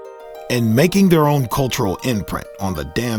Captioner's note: voiceover